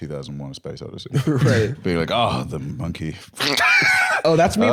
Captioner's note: laughs